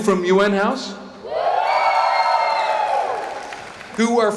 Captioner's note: cheering